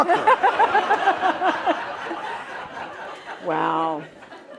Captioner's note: laughter